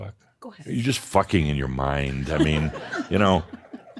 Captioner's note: more chuckles